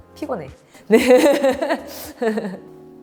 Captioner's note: laughs